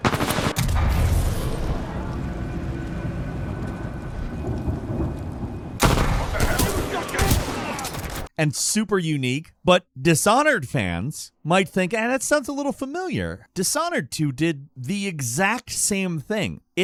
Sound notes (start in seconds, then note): 0.0 guns blasting; 5.8 gun blasting; 6.5 guard grunting